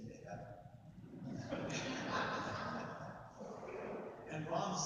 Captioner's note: audience laughs